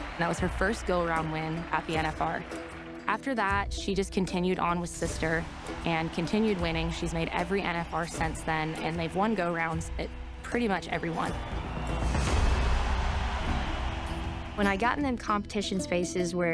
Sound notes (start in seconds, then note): 12.6 crowd cheering